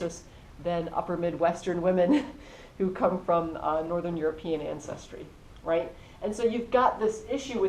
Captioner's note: laugh